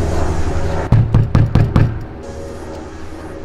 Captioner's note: banging on door